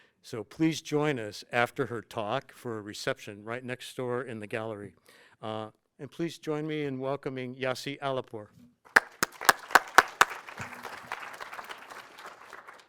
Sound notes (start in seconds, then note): 8.8 audience clapping